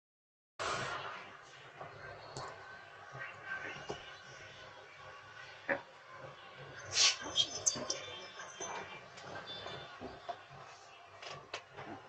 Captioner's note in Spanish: Charla indistinta